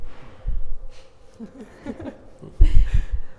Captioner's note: co-moderators chuckling